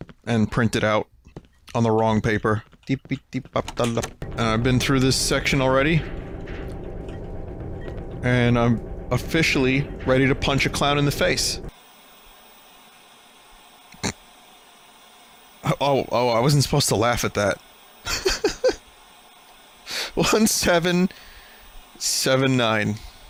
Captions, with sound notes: and printed out on the wrong paper. Dee-bee-dee-bie-doll-up. And I've been through this section already... and I'm officially ready to punch a clown in the face. (Snorts) Oh, I wasn't supposed to laugh at that. (Laughs) 1, 7, 7, 9.